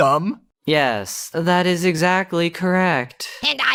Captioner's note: sarcastically